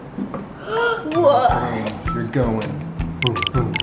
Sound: gasps

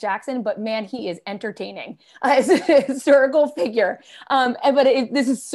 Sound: laughter

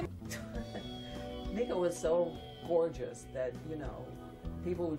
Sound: laughs

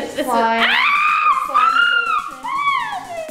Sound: screams

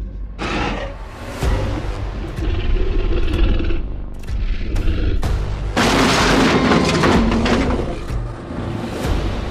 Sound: T-Rex growling and crashing sound of flipped vehicle

